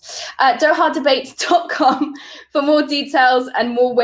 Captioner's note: laughing